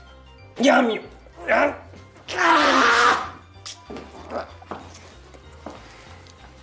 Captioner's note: gasps in exasperation